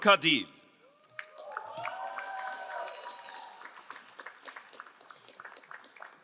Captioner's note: crowd cheering and applauding